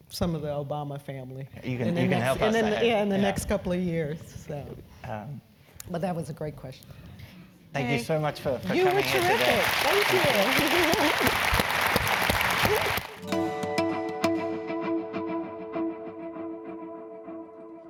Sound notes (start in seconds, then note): 10.4 applause; 10.4 laugh